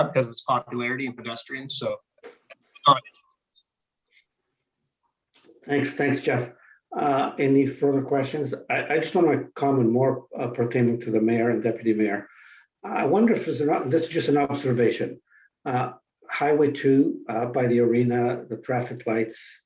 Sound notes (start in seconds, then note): 2.8 indistinct conversation